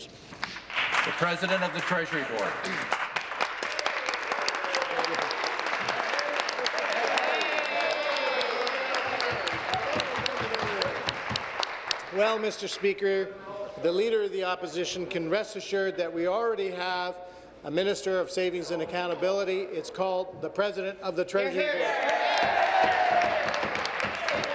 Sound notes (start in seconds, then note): 7.1 applause